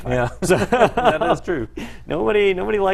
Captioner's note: laugh